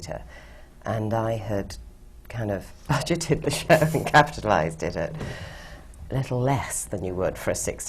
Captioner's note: laughs